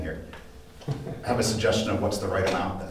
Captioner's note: laughing